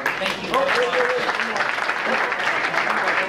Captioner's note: clapping